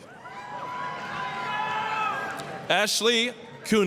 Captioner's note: applause, cheering